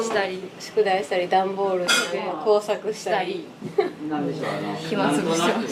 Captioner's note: laughs